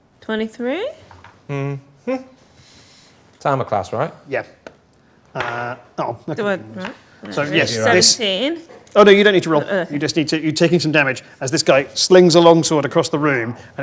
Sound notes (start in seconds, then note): 6.2 overlapping chattering